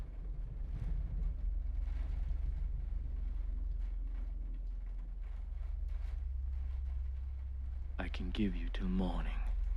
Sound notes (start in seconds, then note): 0.6 thunder rolling